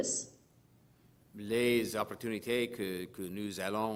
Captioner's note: speaking french